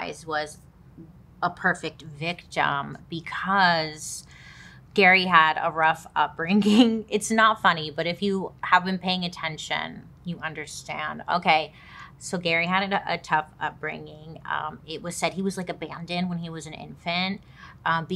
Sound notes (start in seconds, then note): 6.2 chuckles